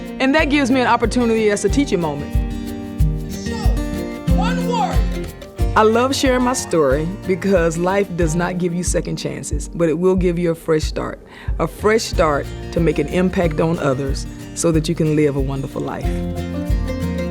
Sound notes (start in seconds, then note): 4.4 audience cheering; 17.1 bright music